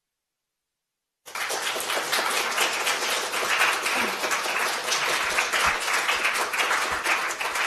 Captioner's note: applause